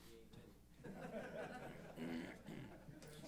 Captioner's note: laughter